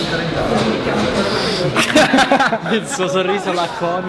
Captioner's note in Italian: risate